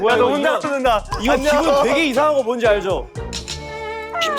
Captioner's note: choked up